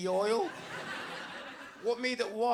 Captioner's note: audience laughs